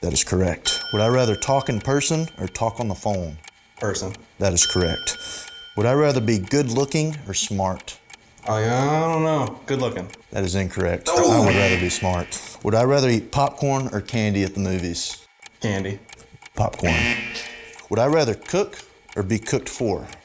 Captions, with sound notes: - That is correct. (ding) Would I rather talk in person or talk on the phone? - Person - That is correct. (ding) Would I rather be good looking or smart? - I don't know. Good looking. - That is incorrect. - Ooo! (buzzer) - I would rather be smart. Would I rather eat popcorn or candy at the movies? - Candy. - Popcorn. (buzzer) Would I rather cook or be cooked for?